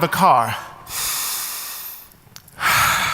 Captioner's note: inhales deeply; exhales deeply